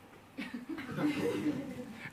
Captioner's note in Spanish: Risas